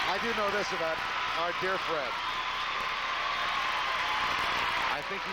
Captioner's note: applause